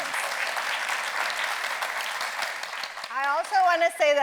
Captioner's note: audience applauds